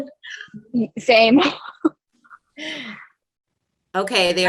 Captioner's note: laughs